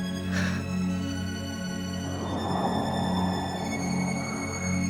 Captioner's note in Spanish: viento que sopla